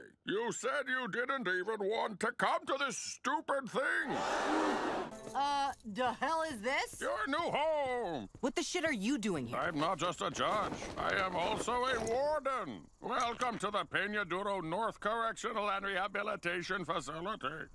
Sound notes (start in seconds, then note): 4.1 crowd gasps